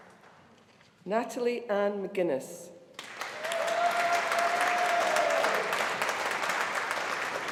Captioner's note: audience applauding